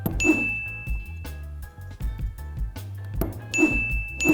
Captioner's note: bell dinging